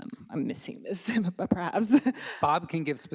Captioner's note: chuckles